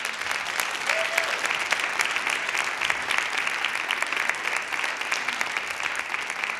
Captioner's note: applause